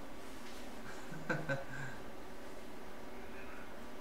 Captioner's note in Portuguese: Risos